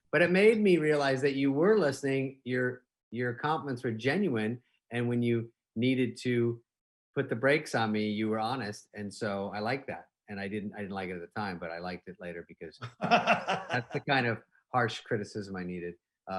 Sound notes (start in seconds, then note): 12.8 laughing